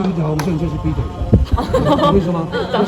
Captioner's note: laughing